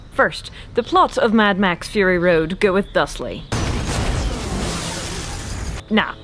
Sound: explosion

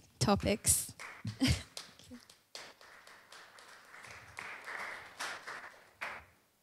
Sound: applause

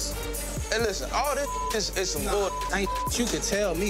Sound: beep

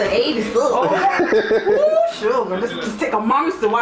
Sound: laughs loudly

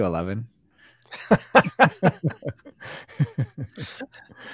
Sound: both laughing

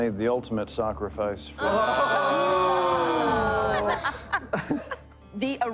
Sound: laughter

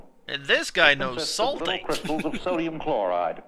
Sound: chuckling

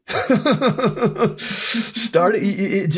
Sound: laughs

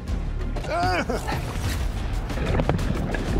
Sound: suspenseful music playing; straining

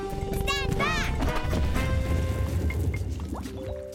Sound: boom!; bubbling

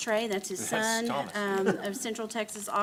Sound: chuckles

